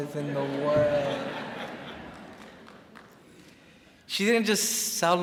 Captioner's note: crowd laughs